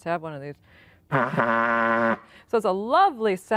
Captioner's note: blowing horn